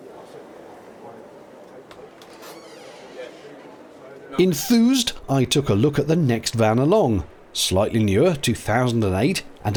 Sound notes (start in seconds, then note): 2.3 subtle squeak of door